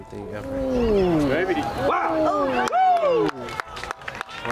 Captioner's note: crowd cheering